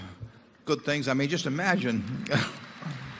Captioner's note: applause